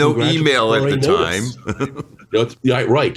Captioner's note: chuckles